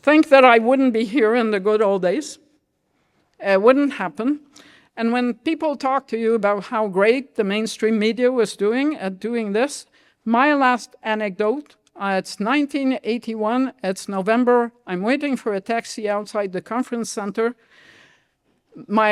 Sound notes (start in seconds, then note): none